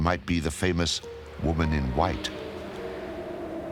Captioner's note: whooshing